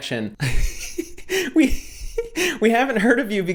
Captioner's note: laughs